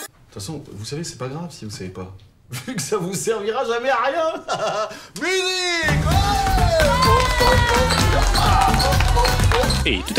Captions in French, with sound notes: T'façon vous savez c'est pas grave si vous ne savez pas *rire* Vu qu'ça vous servira jamais à rien ! MUSIQUE !